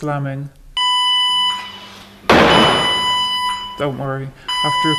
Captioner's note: beeping, door slamming